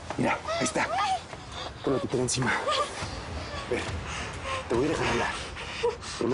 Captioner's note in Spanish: Gemidos de ella